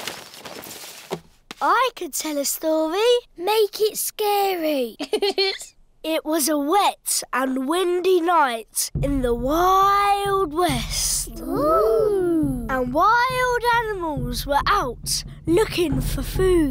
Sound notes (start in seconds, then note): 5.0 giggling